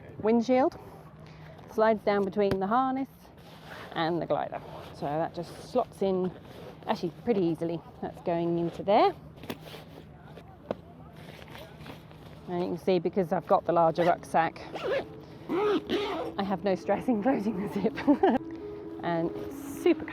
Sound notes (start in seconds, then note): 15.4 bag zipping; 17.7 laughing